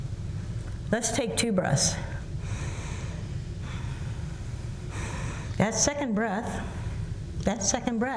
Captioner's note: breathes twice